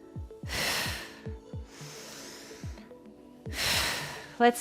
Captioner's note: breathes deeply